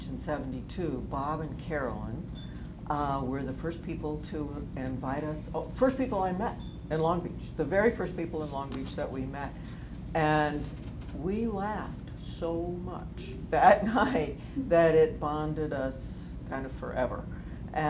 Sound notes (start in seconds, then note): none